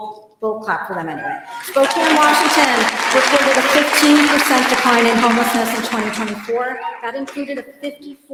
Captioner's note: applause